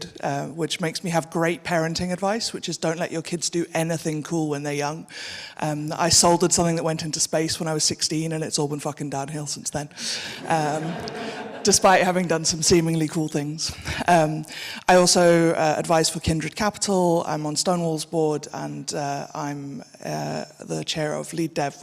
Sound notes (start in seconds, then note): 10.2 audience laughing